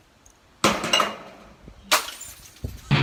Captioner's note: glass hitting roof sound; smashing glass sound